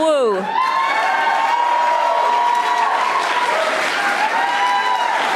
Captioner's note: audience applauding